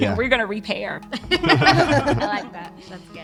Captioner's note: laughing